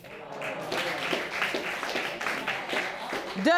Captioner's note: sobbing; audience clapping; audience exclaiming